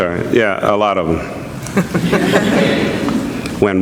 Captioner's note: laughter